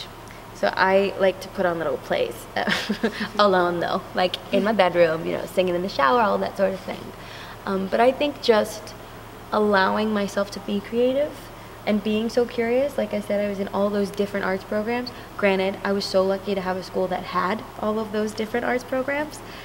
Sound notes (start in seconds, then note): 2.6 laughs